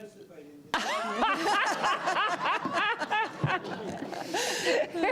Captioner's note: laughter